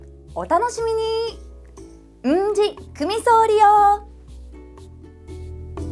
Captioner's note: in Okinawan